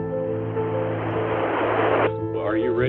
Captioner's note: mellow piano music; air whooshes softly